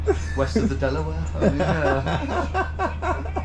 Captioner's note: giggling